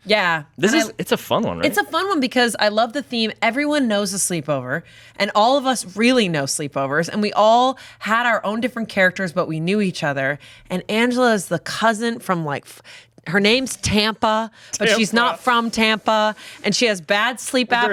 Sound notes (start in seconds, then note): 14.8 laughs